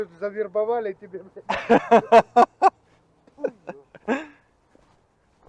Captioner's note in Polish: śmiech